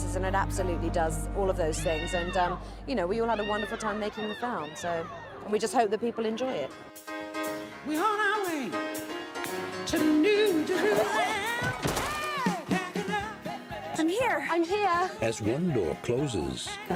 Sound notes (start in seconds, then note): 5.6 upbeat music; 11.8 snow thuds